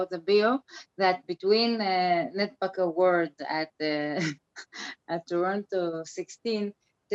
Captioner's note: laughs